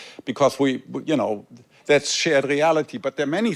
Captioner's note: none